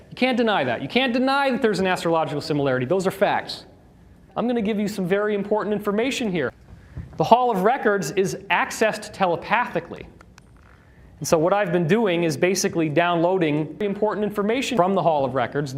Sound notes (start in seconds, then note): none